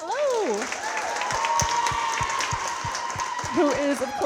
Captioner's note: audience cheering and clapping